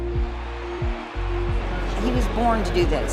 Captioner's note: cheers and applause